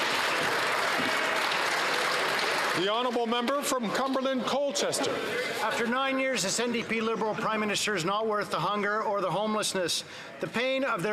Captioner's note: some Applause